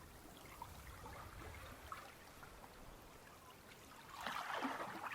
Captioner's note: water sloshing